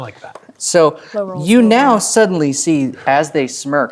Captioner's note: speaking quietly